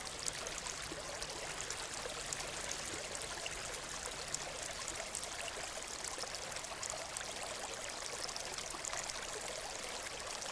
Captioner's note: water flowing